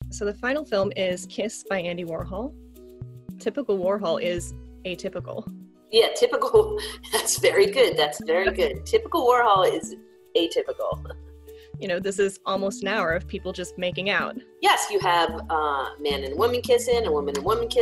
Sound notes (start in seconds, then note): 6.6 laughs